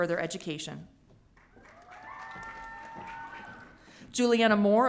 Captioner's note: audience cheering